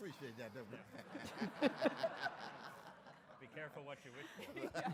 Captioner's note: audience and Dr. West laugh